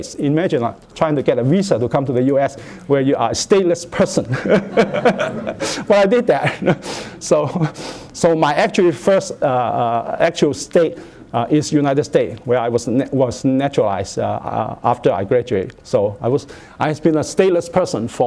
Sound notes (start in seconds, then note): 4.3 laughter